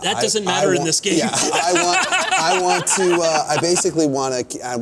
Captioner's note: laughter